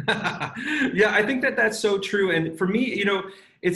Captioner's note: laughs